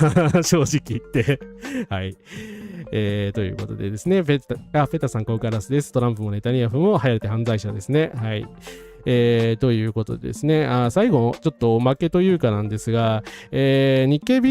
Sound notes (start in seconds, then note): 1.9 laughter; 2.2 sigh